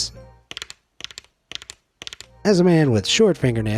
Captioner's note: nails clanks